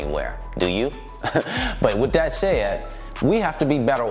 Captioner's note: chuckles